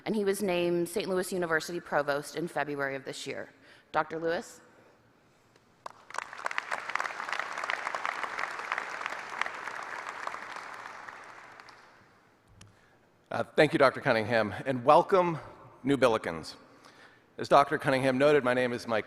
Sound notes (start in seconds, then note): 7.4 applause